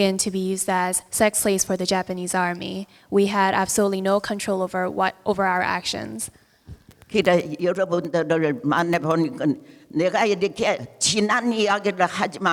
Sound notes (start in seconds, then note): 7.6 speaking in foreign language